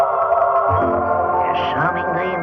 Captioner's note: bell